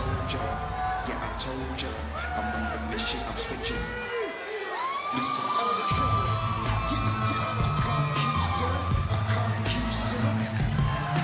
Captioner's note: crowd cheering